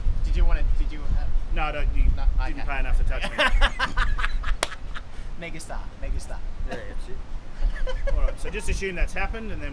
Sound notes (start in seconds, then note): 3.3 laughs